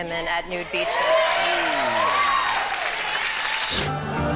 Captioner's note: audience cheering